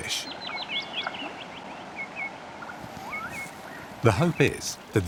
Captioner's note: birds singing